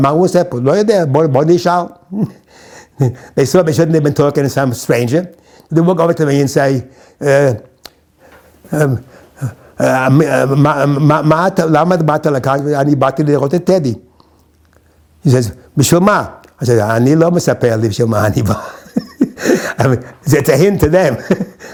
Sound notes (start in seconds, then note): 7.5 in Hebrew